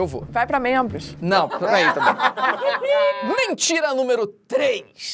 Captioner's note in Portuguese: risadas